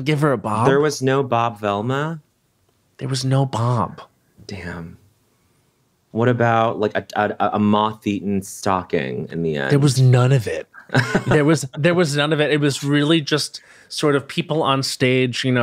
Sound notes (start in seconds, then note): 10.7 chuckles